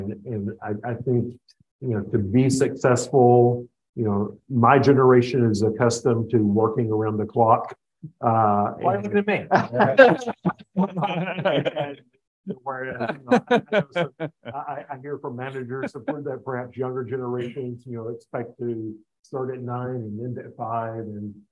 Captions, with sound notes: and I think to be successful, my generation is accustomed to working around the clock. - Why are you looking at me? (all laugh) - I hear from managers support that perhaps younger generations expect to start at nine and end at five.